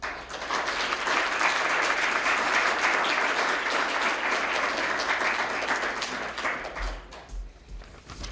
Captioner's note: applause